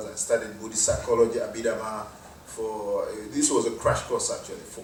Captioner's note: none